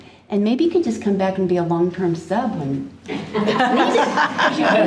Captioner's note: all laughing